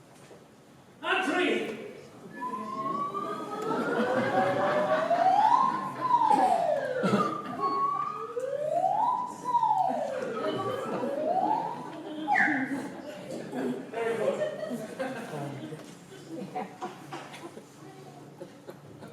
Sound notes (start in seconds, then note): 2.4 slide-whistle grappling-hook sound; 2.8 laughter